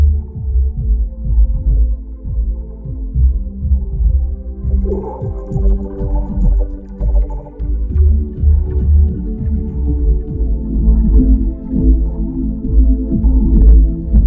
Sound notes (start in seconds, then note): 4.6 eerie scuttling; 6.6 sinister music plays